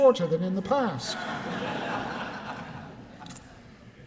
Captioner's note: laughter